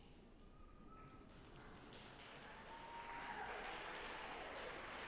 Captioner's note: audience applauding